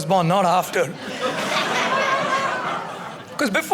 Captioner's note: audience laughing